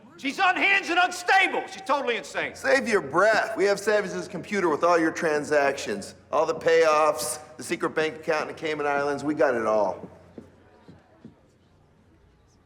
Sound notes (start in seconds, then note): none